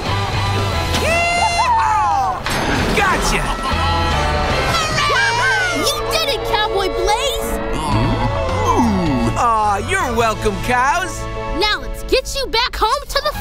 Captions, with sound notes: - Yee-haw! - Whoo-hoo! Gotcha! - Hurray! - Whoo-hoo! You did it, Cowboy Blaze! [mooing] Aw, you're welcome, cows. Now let's get you back home to the farm.